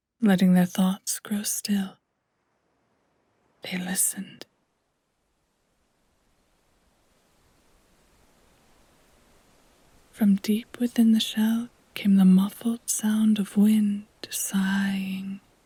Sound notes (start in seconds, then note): 5.1 wind gusting